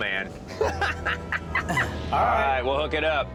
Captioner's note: laughs